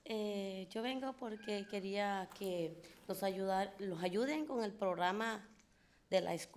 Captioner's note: speaking in foreign language